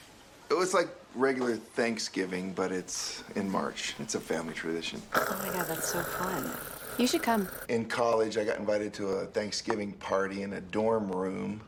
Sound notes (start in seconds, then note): 4.7 𝘴𝘯𝘰𝘳𝘦𝘴